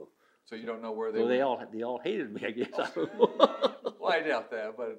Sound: laughs

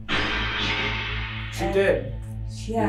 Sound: radio noise reverberating

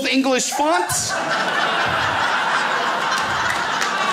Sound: crowd laughs

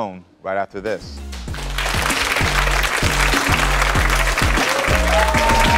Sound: upbeat music; audience clapping; audience cheering

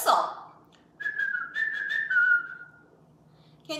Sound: whistling

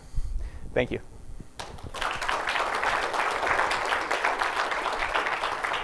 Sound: applause

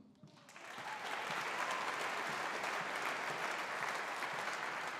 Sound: audience applauding

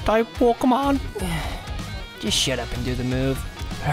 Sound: sigh

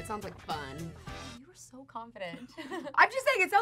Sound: laughs

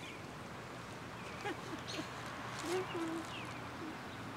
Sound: laughing

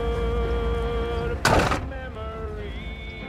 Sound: door slams shut

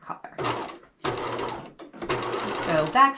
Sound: sewing machine clunking

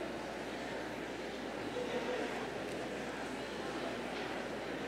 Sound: people chatter indistinctly

